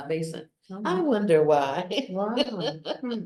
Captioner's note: laughs